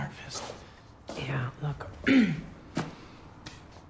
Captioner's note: clears throat